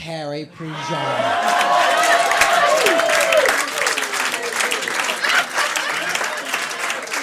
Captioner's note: applause